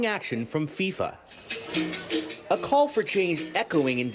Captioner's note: speaking non-english